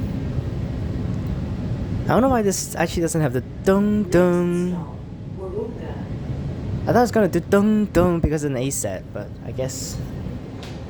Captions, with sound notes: I don't know why this actually doesn't have the [PA sounds] I thought it's going to do [PA sounds] because it is an A-Set but I guess